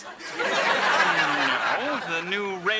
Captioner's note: audience laughing